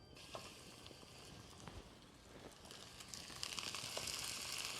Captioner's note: sizzling